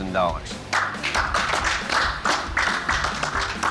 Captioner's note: applause